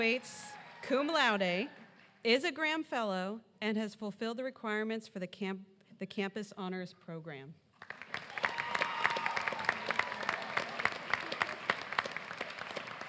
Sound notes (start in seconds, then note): 6.2 applause